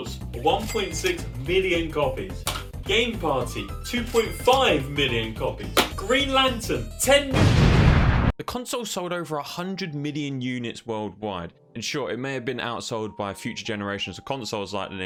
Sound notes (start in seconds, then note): 7.3 explosion